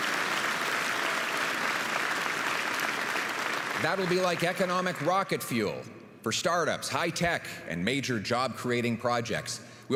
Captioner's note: applause